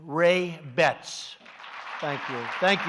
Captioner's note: applause